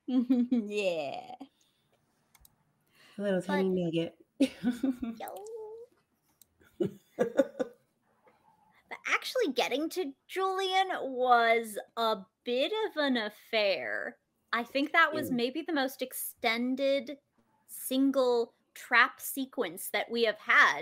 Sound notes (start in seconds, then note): 0.1 chuckles; 4.4 chuckles; 7.2 laughs